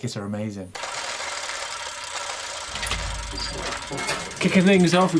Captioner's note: gears rattling and creaking